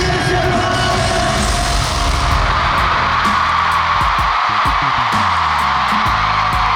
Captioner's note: the deafening screams fill the whole venue